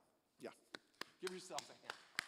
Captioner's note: applause